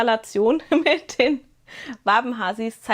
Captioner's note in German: gelächter